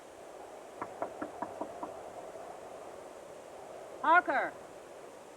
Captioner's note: knuckles rapping